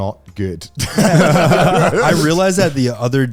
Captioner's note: all laughing